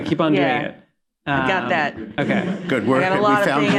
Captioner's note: laughter